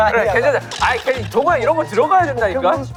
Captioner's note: arguing